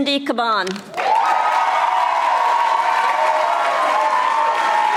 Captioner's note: audience applauding